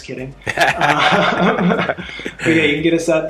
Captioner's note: both laughing